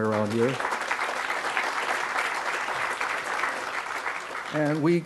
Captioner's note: crowd applause